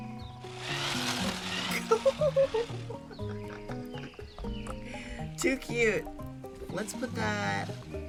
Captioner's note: giggles